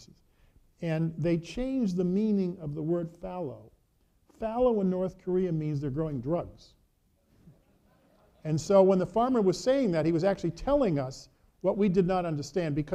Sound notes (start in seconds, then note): 7.2 audience reacting